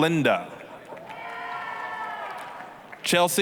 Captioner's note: applause, cheering